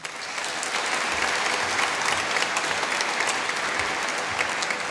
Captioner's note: applause